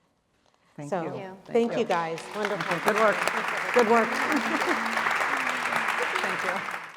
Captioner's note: applause